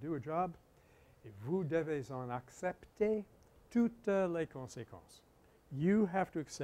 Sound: French

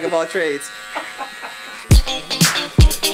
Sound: laughing; upbeat funky music

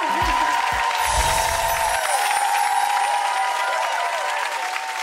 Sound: audience applauding

